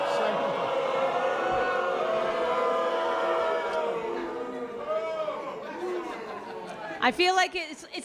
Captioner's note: boos